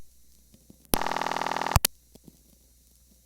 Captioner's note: ringback tone